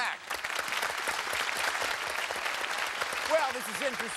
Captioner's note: cheers and applause